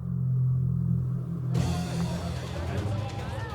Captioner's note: crowd jeering